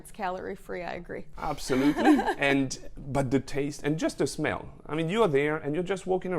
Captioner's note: laughs